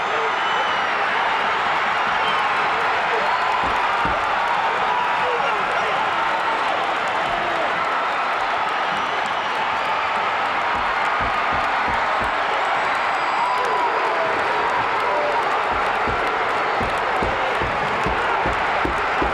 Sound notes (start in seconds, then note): 1.8 audience chattering continues; 10.5 audience applauding and cheering